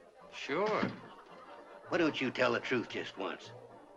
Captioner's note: none